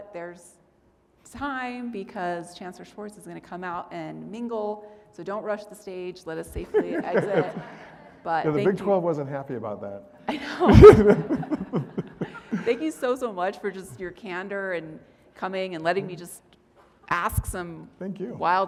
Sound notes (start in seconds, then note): 6.7 audience laughing; 10.5 audience laughing